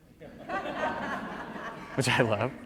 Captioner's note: audience laughs